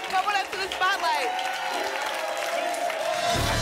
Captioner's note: applause and cheering cont